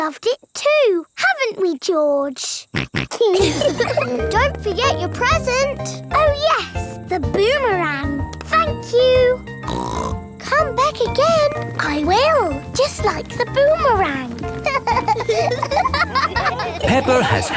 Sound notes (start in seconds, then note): 2.7 snorts; 2.8 laughs; 9.6 snorts; 14.3 laughing